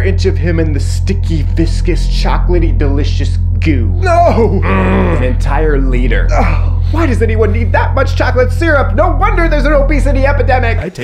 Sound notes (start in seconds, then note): 4.0 Beanbag grunts